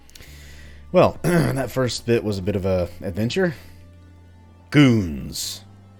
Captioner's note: clears throat